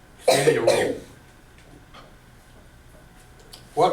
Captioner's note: coughing